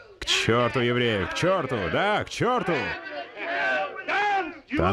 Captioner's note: group chattering